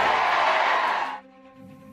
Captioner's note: applause